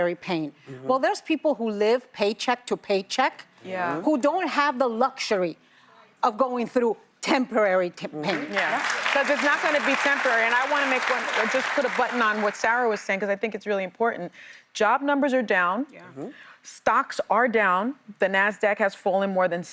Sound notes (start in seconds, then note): 13.2 applause